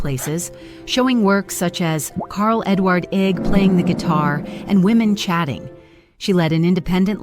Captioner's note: women Chatting